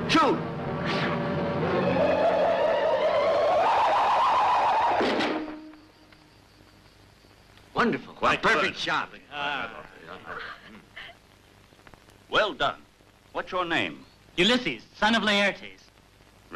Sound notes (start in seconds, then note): 0.8 arrow whistling; 10.2 giggling